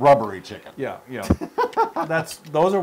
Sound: laugh

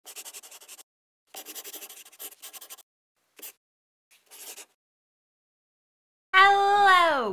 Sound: the sound of a pen scratching

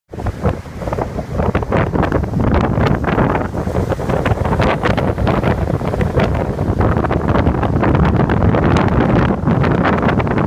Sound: howling wind and waves crashing on rocks

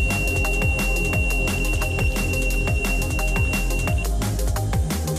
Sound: rods beeping loudly

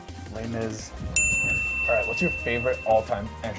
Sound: bell rings

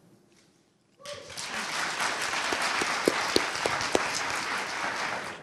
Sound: audience applauding

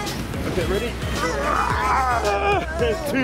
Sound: grunts

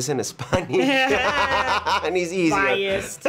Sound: Tenoch laughs

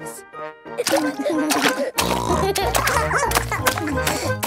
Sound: barking; giggling; snorting

